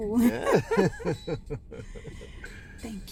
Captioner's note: Jonathan and Abby giggling